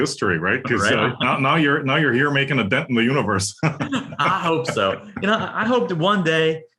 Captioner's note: laugh